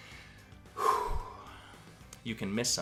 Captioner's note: sighs